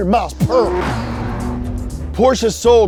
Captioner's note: car engine roars